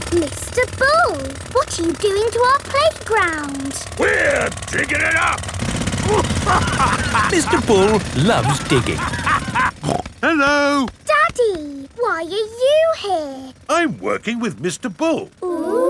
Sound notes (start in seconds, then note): 6.0 laughing